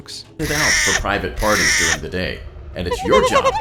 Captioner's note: strange honk; baby’s cry